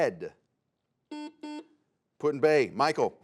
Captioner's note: buzzer sounds